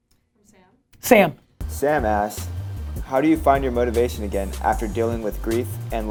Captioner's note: voiceover